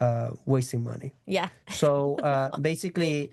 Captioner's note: chuckles